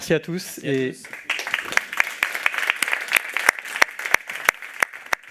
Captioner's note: applause